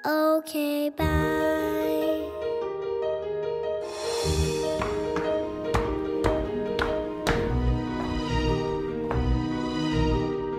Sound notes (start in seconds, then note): 2.5 gentle music continues; 4.7 shoes tapping